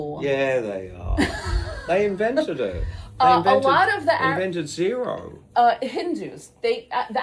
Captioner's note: laughs